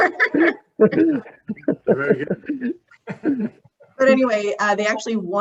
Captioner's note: laughs